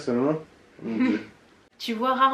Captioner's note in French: rires